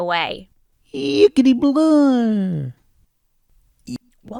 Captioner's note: Poodle Boople exclaims incoherently